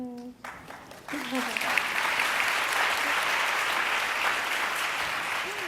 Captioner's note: audience applauds